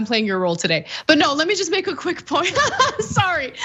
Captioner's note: laugh